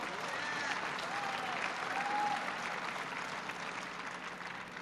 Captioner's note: applause